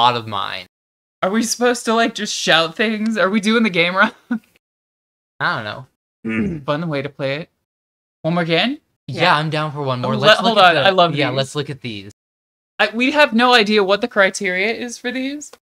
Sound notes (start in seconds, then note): 6.2 clears throat